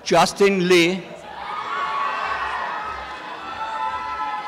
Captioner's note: applause and cheering